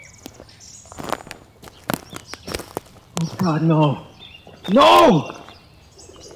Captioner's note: gasping